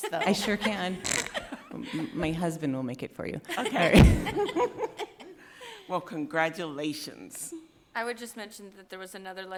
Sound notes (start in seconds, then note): 3.5 people laughing